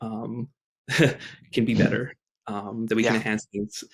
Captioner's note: chuckles